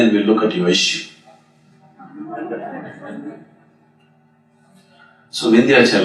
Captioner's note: meditators Laugh